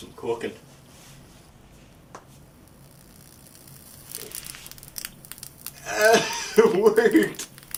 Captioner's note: sizzling; crackling and buzzing